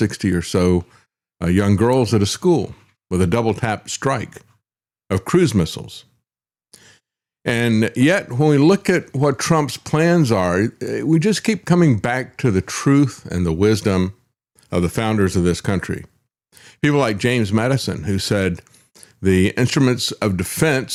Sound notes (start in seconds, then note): none